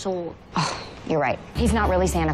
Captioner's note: sighs